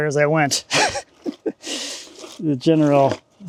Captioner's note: chuckling